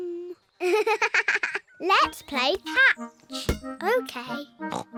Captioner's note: giggles